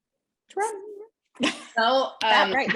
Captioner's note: laughter